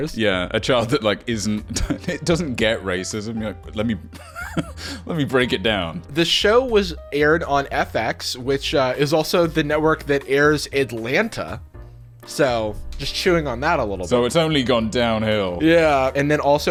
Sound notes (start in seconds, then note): 4.2 laughing